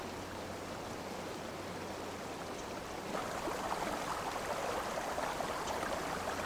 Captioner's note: river sounds